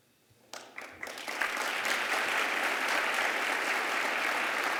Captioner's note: applause